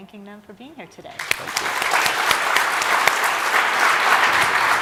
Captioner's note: applause